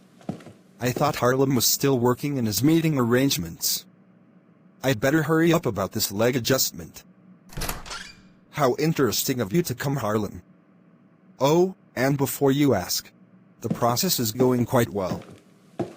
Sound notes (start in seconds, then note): 7.5 door opens